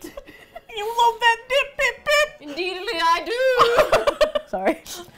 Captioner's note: attempting Cockney accent; both laugh